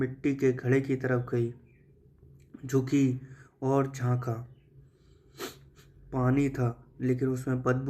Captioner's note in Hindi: नाक से की जाने वाली आवाज़